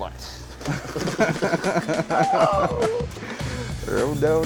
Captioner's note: laughs